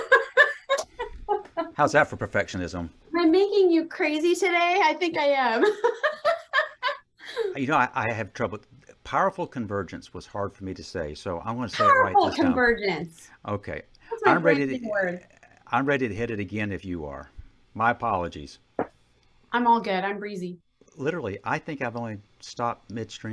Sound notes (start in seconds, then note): 0.0 chuckles; 5.6 chuckles